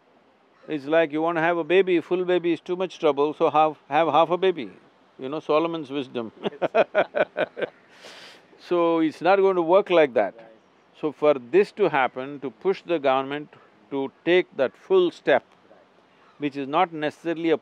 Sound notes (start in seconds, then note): 6.3 both laugh